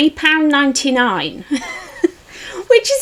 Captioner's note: laughs in disbelief